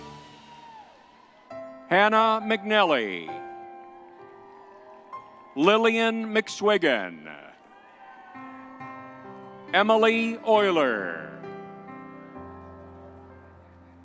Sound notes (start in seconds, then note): 3.9 crowd cheering; 8.0 crowd cheering; 11.7 gentle music